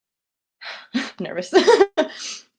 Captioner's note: sighs